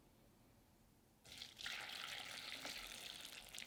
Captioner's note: water pouring